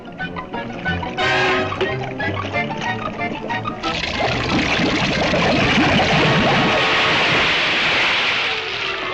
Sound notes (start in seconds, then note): 3.5 lava bubbling